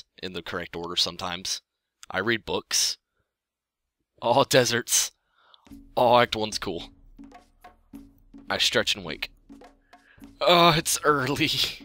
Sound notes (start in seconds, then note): none